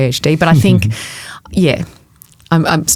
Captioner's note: chuckling